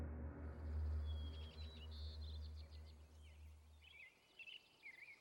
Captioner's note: birds chirping